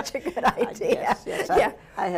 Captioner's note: laughs